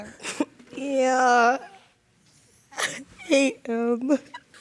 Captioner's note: sobbing